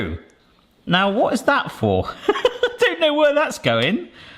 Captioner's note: laughing